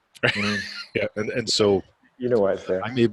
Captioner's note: laughing